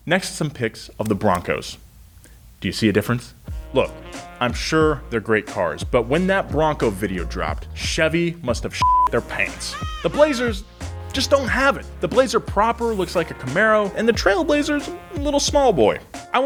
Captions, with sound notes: next to some pics of the Broncos. Do you see a difference? Look, I'm sure they're great cars, but when that Bronco video dropped, Chevy must have their (beep) their pants. The Blazers just don't have it. The Blazer proper looks like a Camaro, and the Trailblazer's a little small boy.